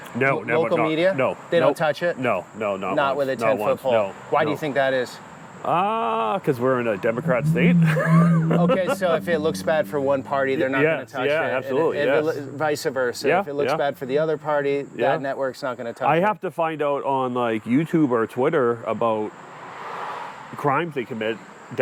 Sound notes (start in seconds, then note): 7.0 laughs